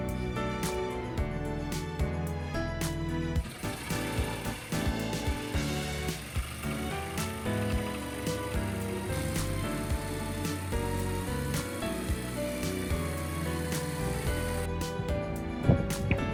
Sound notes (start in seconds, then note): 1.2 cutting with jigsaw